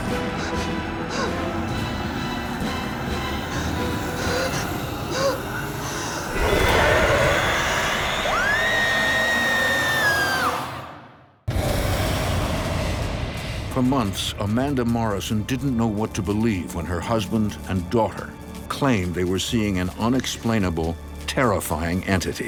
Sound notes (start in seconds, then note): 8.0 woman screams; 11.2 intense music